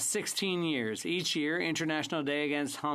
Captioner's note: speaking French